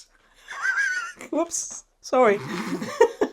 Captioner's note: both laughing